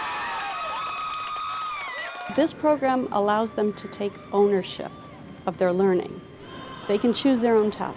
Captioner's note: cheers